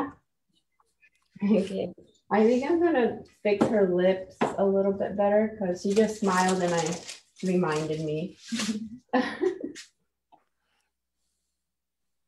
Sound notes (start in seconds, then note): 9.1 chuckles